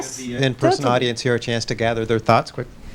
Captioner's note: voiceover